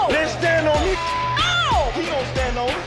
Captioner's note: beep